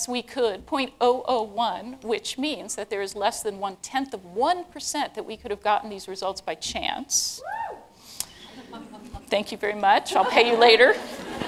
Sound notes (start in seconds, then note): 7.4 cheers